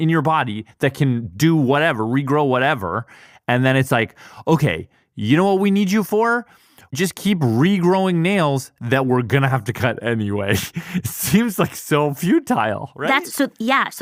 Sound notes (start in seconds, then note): 10.5 laughs